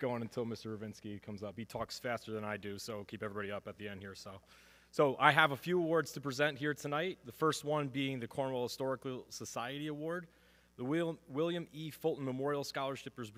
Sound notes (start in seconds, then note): none